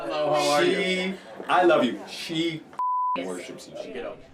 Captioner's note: beep